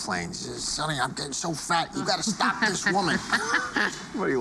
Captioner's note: both laugh